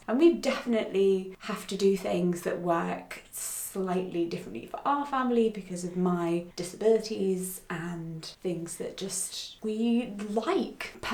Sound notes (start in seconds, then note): none